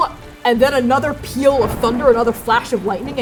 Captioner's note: thunder booming